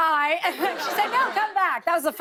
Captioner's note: laughter